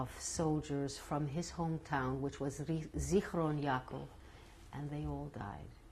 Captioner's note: non-english